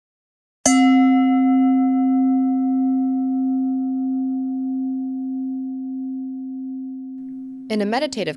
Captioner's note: bell dings